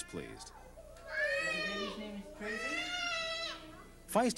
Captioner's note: girl crying